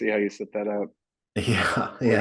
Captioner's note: chuckles